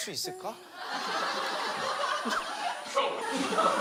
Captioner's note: laughs